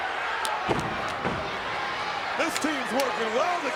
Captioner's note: crowd yelling; feet stomp